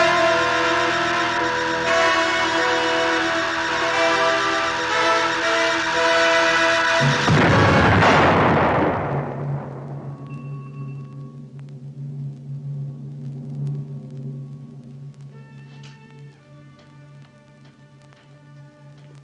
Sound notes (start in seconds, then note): 7.0 explosion rumbles